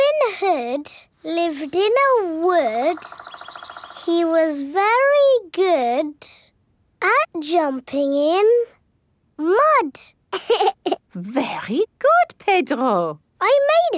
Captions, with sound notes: Robin hood, lived in a wood. He was very good at jumping in... Mud. (LAUGHS) Very good, Pedro!